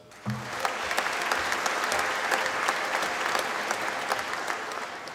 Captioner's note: applause